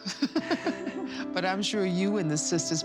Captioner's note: laughter